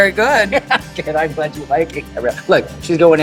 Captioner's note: laughs